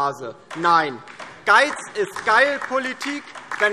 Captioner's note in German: Beifall DIE LINKE